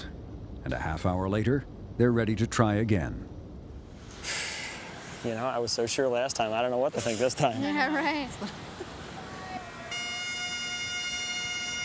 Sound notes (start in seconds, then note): 4.2 sighs